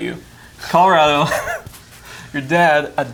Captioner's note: laughs